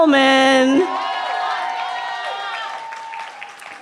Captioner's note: cheering